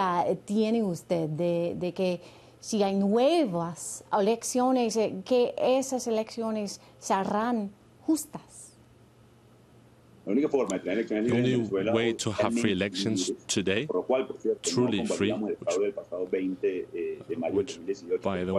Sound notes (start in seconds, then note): 2.7 speaking spanish